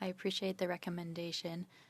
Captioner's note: speaking French